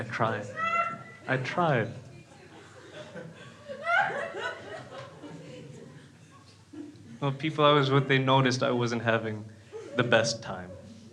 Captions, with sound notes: I tried, I tried. (crowd laughing) People obviously noticed I wasn't having the best time.